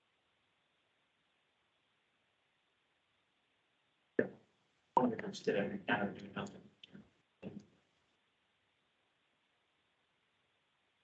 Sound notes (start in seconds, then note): 4.3 indistinct chatter